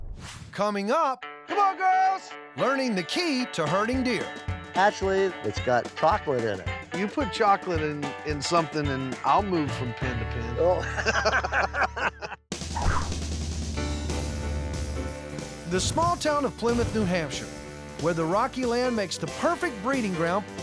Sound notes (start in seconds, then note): 10.7 laughter